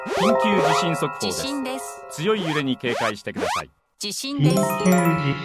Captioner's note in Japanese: 警報